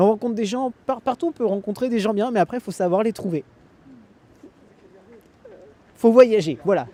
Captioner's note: laughs